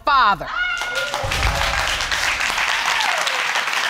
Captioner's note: audience applauding